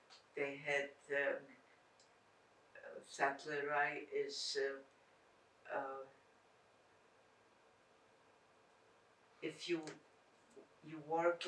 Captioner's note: non-english